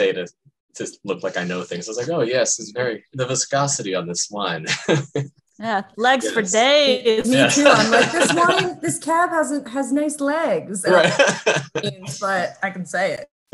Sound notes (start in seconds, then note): 4.8 laughs; 7.2 all laugh; 10.8 laughs